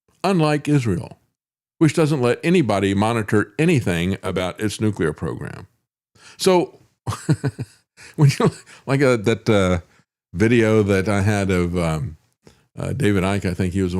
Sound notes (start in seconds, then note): 7.2 laughs